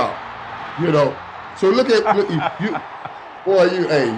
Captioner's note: laughs